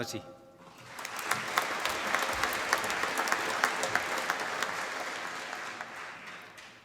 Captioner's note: applause